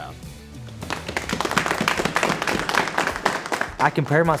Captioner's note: applause